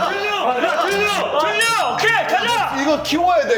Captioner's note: talking through double noise-canceling layers